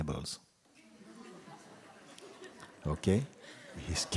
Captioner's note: laughter